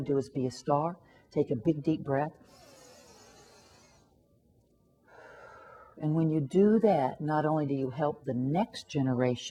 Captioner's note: inhaling sound